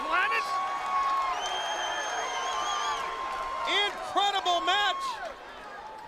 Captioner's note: applause